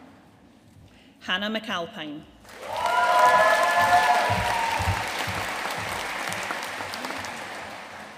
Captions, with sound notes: Hannah McAlpine. (AUDIENCE CHEERING AND APPLAUDING)